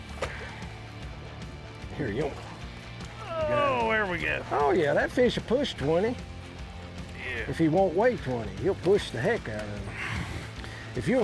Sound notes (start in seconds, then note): 3.2 groans